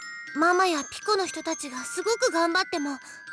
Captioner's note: none